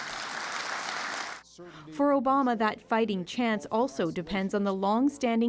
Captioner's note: applause